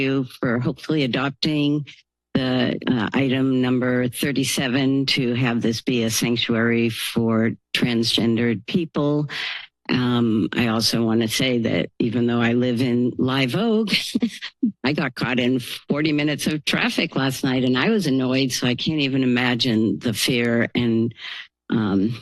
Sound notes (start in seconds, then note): 13.9 chuckles